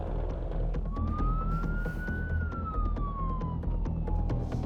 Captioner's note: sirens wailing